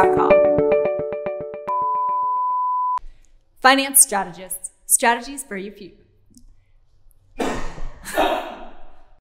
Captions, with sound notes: (video beeps) Finance Strategists, strategies for you... (crew member laughs)